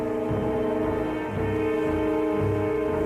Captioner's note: shouting